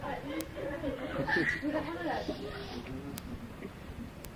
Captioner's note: laughing